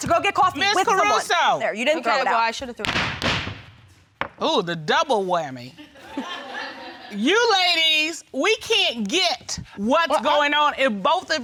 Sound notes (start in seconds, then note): 2.7 thudding; 5.8 audience laughing